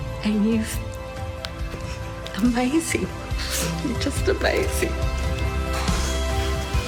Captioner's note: sobs; gentle upbeat music